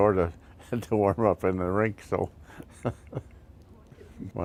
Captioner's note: laughing